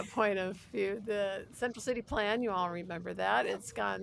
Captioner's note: laughter